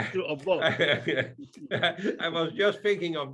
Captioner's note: laughing